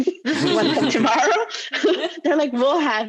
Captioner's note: laughing loudly